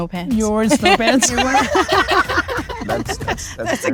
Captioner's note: all laugh